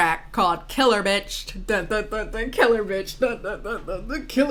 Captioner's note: hums